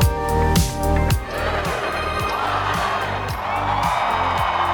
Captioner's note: crowd; crowd cheers